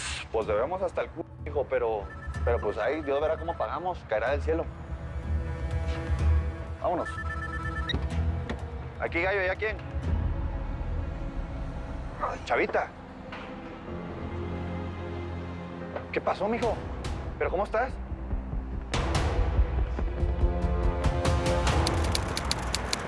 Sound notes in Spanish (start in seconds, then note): 7.0 Suena el celular; 7.1 Sonido al contestar el celular